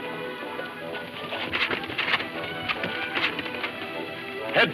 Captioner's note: horses trotting